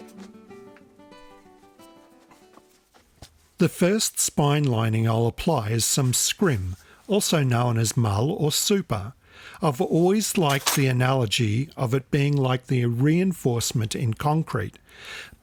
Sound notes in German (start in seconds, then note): 6.5 auf Englisch